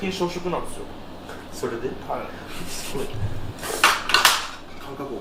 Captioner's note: laughs